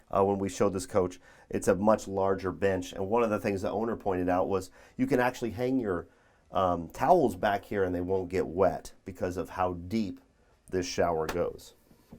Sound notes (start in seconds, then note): none